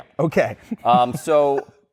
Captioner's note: laughs